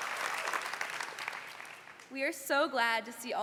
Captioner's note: cheers and Applause